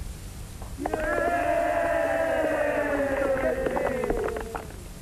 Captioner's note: crowd cheering